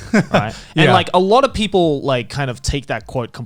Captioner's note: Garnt laughing